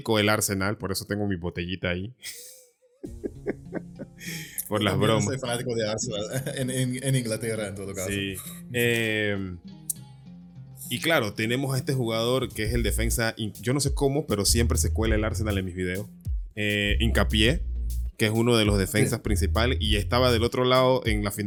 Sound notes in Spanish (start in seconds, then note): 2.9 risas